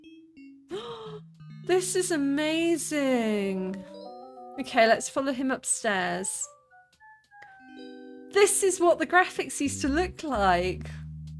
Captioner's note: gasp